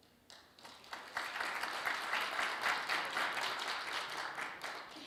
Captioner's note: audience applauds